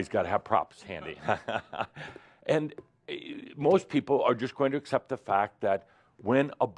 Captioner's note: Adamus chuckles, as he brings out a red ball